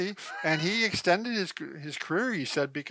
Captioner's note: laughs